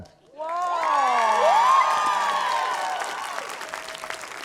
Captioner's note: cheering, applause